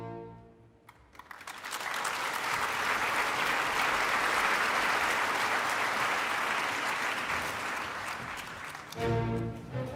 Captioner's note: applause